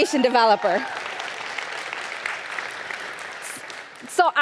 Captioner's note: audience applauding